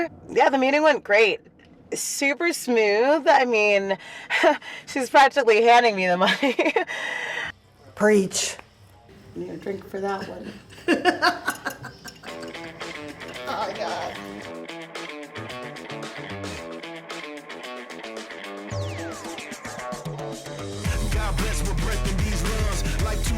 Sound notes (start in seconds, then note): 10.0 laughs; 12.4 rhythmic music; 15.4 rhythmic music; 17.5 music intensifies